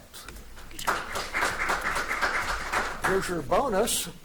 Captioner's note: audience applauding